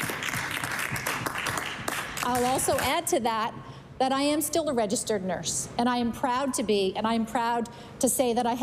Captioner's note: applause